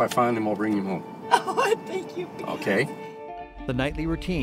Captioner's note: crying